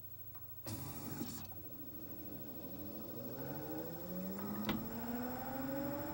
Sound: disc spins up

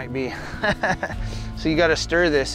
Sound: laughing

